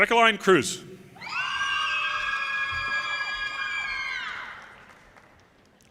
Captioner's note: audience cheers and applause